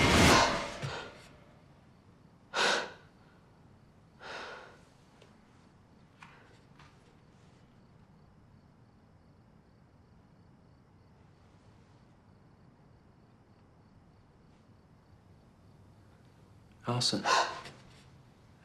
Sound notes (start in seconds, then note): 0.3 gasps; 2.6 exhales sharply; 17.2 gasps